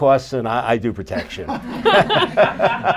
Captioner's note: laughter